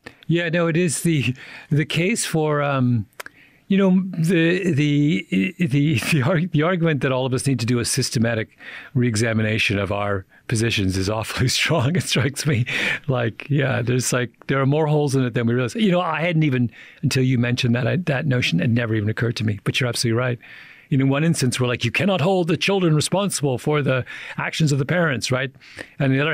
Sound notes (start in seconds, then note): 11.4 chuckles